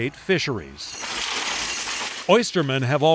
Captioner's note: oysters clinking